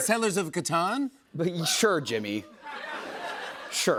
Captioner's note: laughter